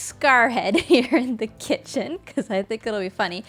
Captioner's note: chuckles